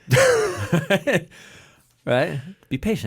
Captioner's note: both laughing